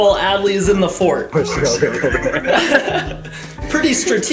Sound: laughter

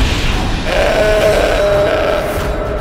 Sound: bull roars

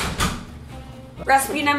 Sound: door closes

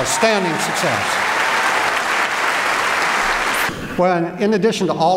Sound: applause

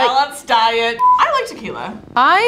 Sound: beeping

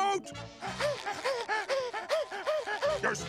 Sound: gasping

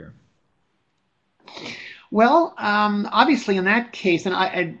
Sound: voiceover

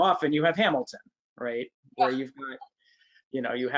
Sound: chuckles

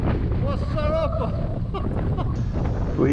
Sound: laughs

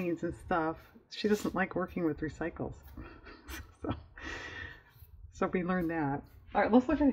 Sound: laughs

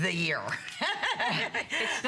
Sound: laughter

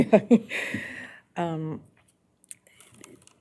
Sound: laughing

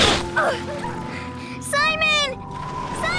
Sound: Marceline grunts

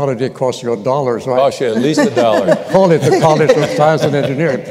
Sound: laughter

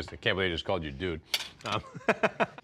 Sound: laughs

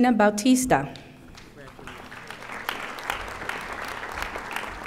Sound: audience applauding

